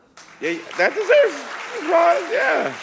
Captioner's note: audience applauding